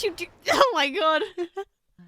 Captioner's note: laughs